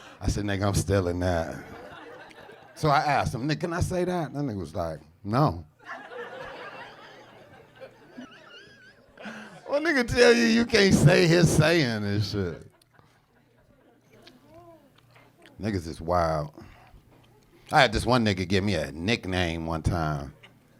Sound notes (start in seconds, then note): 5.8 audience laughing